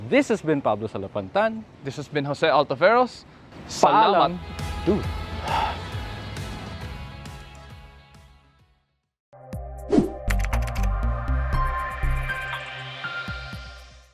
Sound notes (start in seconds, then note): 5.4 sigh